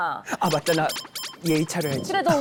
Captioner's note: wavering sound effect